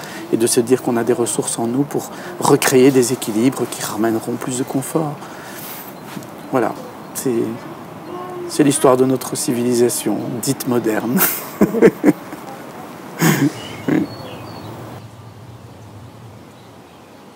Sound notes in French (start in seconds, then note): 11.1 rire